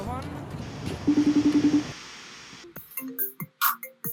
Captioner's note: phone chiming; phone ringing